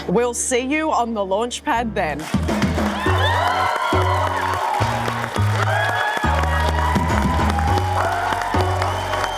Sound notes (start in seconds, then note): 2.3 audience cheering